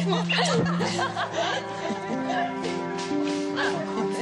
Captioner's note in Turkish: Gülme